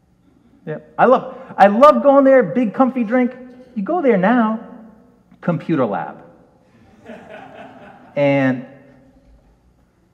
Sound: audience laughs

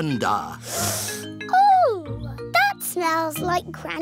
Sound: sniffs

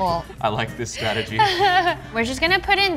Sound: laughs

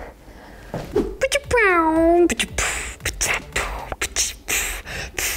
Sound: image whooshing; beatboxing; images pop

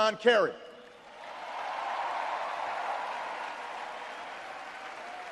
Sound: audience cheers and applauds

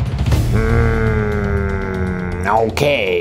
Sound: granny growling

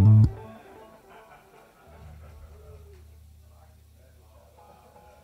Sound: distant laughter

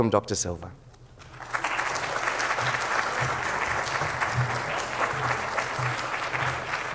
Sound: applause

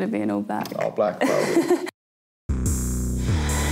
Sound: laughing; hip hop beat

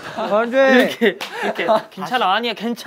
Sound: clap clap

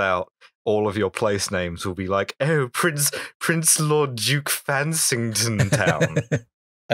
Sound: fancy lad voice; laughter

